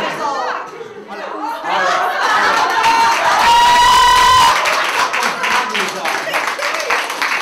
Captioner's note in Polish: Śmiech i oklaski widowni